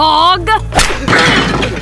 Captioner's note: slap